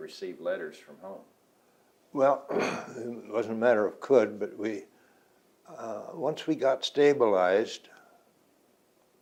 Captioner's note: clears throat